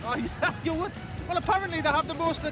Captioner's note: chuckles